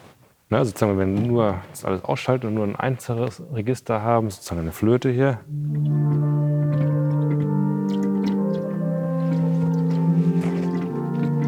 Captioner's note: in German